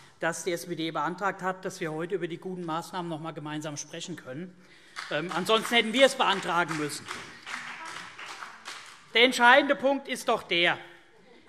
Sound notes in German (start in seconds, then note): 7.0 Vereinzelter Beifall BÜNDNIS 90/DIE GRÜNEN